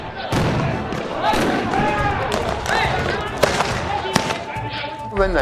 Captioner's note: gun shots